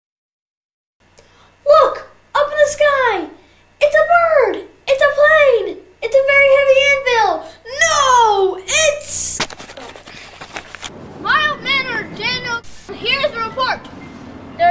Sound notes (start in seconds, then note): 1.9 child's voice; 12.8 static